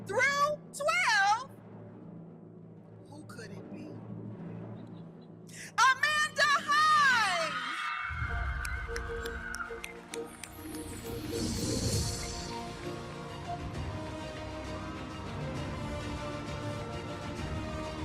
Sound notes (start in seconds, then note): 7.0 audience cheering; 9.7 audience applauding; 11.4 uplifting music